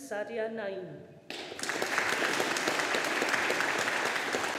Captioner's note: audience applauding